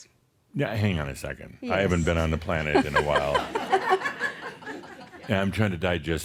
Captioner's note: laughter